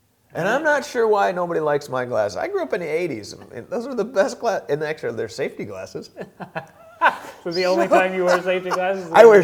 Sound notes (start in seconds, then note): 6.2 laughing